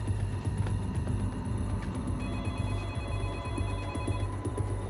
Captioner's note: telephone inside ringing